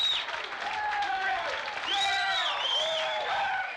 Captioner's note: cheering